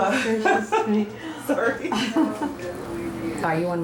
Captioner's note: laughing